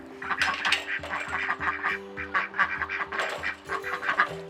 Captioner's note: chickens clucking